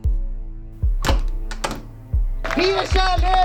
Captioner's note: someone jerks the door handle